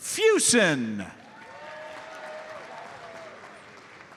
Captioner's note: audience cheers and applauds